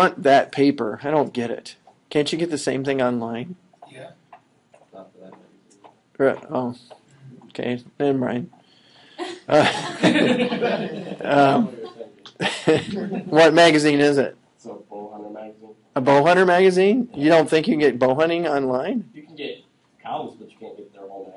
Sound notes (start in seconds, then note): 12.3 laughing